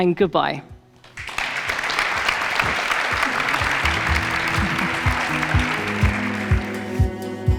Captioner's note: audience applauds; soft, upbeat music